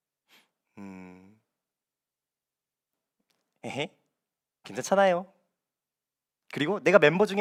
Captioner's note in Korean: 콧방귀